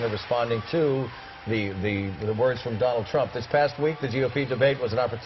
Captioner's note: applause